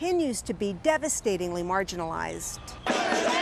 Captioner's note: chanting